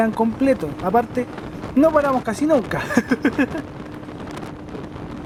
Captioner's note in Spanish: risas